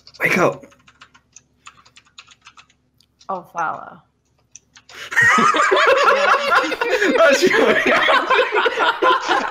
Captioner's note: laughter